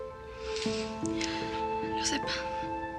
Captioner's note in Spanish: Suspiros